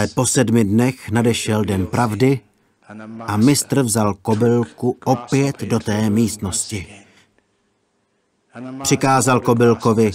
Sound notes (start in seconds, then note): none